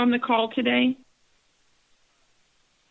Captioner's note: silence